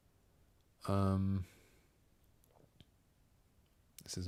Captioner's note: silence